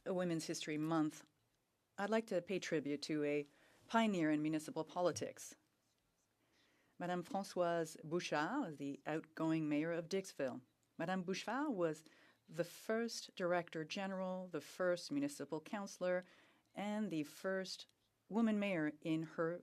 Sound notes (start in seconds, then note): 3.1 speaking French